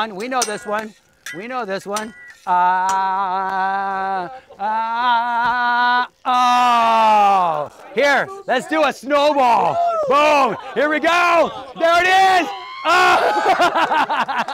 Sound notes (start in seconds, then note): 3.2 chanting; 12.6 laughs